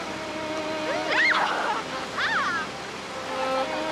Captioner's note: children squeal and laugh